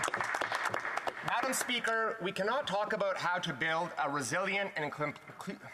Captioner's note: some Applause